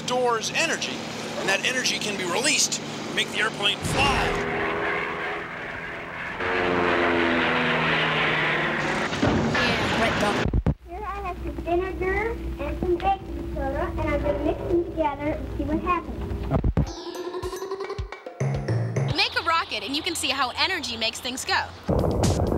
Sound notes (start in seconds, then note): 6.9 <i> engine humming</i>; 9.1 <i> crashing sound</i>; 9.6 <i> engine humming</i>; 10.0 <i> crashing sound</i>